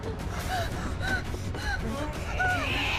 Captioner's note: Maria panting; Abigail screeching